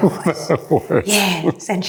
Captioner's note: man chuckling